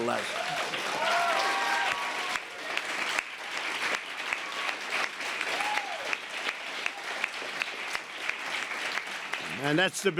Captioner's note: applause